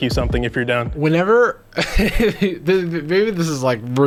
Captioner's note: chuckles